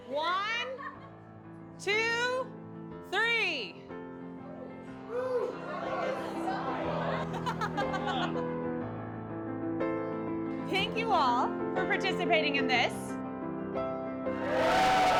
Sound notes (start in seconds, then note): 6.0 chatter; 7.9 laughter; 12.9 piano Music